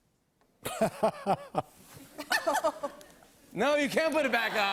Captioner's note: laughs